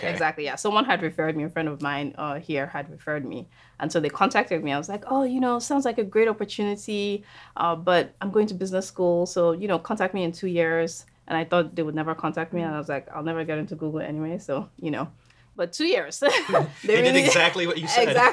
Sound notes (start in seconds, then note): 16.3 laughing